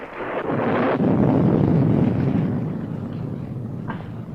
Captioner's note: thunder rumbling